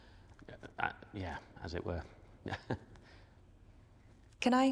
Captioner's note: chuckling